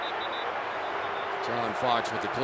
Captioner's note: whistle